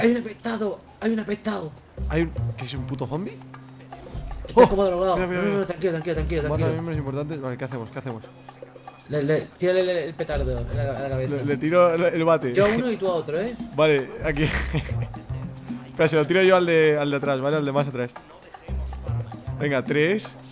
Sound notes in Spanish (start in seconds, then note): 12.2 risa